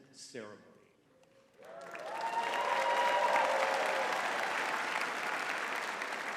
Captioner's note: audience cheering and clapping